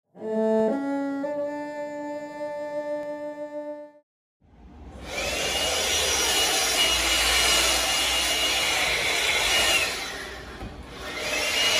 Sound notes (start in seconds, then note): 0.1 three ascending cello notes, ending with a sightly clumsy vibrato; 4.9 small leaf blower blows